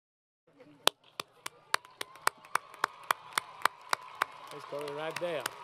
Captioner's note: applause